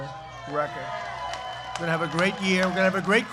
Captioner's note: applause